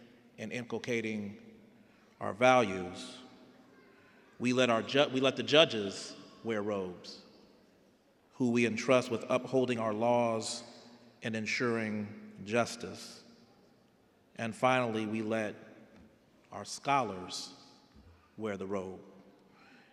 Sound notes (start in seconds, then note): none